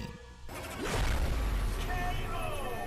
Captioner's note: explosion echoes